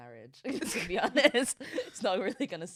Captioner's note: both laughing